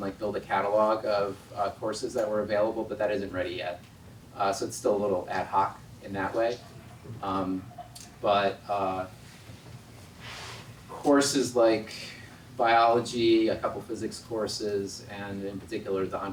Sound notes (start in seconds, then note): none